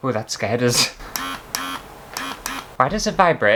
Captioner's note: buzz!; buzzing Sounds